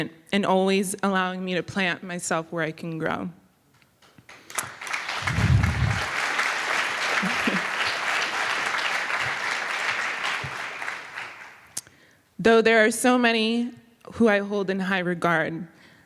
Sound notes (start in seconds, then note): 4.2 applause